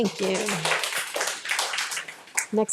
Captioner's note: audience applauds